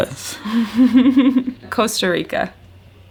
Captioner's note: laughs